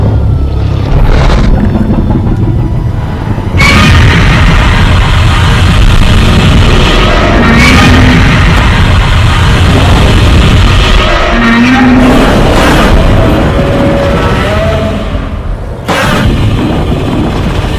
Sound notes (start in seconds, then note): 2.6 Godzilla roars loudly